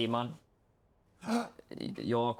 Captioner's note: gasps